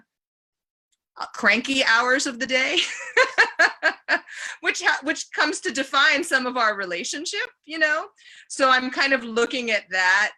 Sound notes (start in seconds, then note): 2.7 laughter